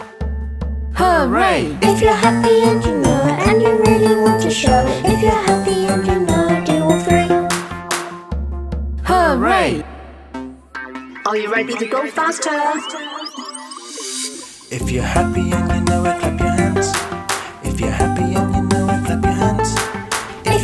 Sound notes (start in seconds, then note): 0.1 drum thumping; 7.5 hands clapping; 8.3 drum thumping; 10.4 electronic dance music; 16.9 hands clapping; 19.7 hands clapping